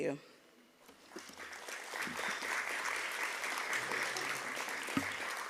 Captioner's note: applause